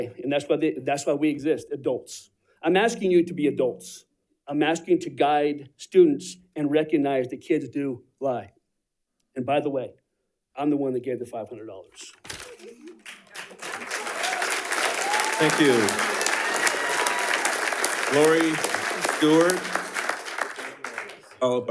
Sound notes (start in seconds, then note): 13.9 attendees applauding